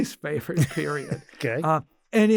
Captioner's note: laughs